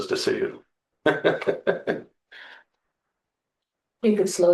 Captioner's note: laughter